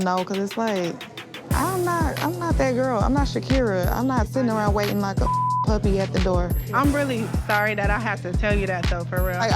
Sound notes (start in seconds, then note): 5.2 beep